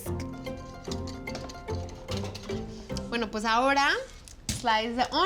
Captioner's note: whisk hitting sides of bowl